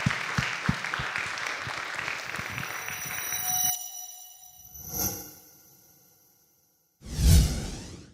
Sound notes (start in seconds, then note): 3.2 metallic swishing